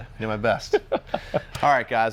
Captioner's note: laughs